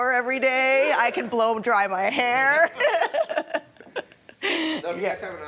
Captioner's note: laughing